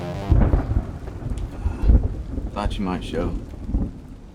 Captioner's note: tense music continues; thunder rumbling